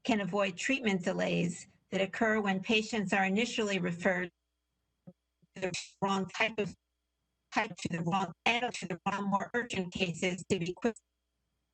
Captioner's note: audio interference